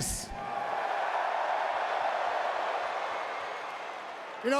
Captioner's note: crowd cheering